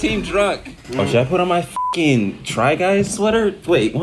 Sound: beep

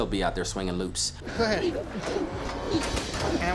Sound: rope swirling

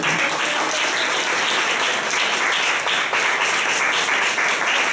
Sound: applause

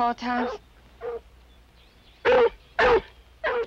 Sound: barking

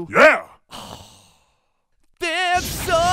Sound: breathing through hairball

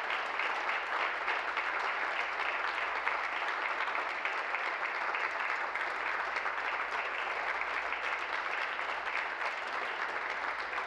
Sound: applause

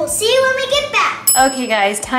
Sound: timer dings

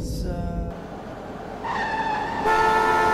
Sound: car brakes sound; car horn sound

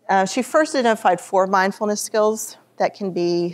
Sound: none

